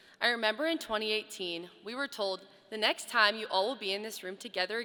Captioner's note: none